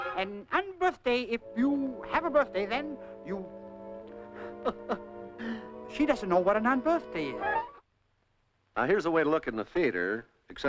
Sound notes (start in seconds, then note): 4.4 chuckling